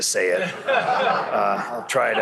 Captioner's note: laughter